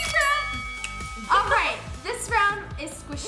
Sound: bell dings

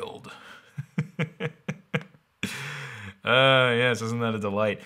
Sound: laughing

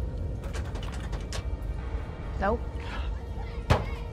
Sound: door handle rattles

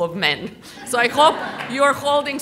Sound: audience laughter

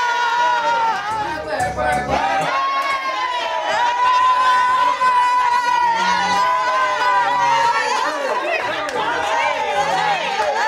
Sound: screaming

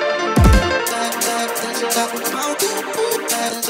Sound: cut-up vocalising

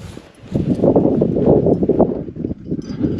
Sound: wind howling

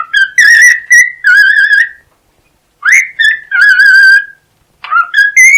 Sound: whistling a melody for his beloved

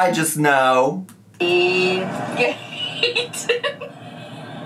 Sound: laughing

